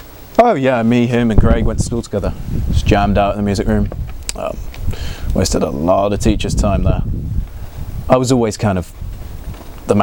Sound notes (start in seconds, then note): 4.2 clicks tongue